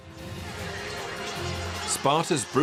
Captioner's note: sounds of battle